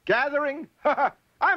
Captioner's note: laughs